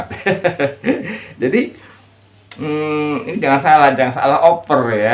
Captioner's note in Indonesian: tertawa